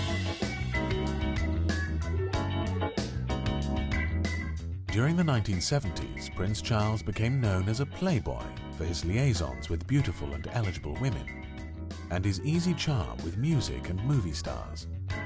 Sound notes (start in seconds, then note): 0.1 upbeat music; 4.0 voiceover; 15.0 upbeat music